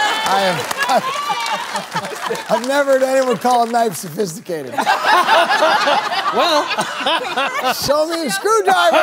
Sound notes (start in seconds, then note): 0.0 cheers; 2.7 laughter; 7.3 laughter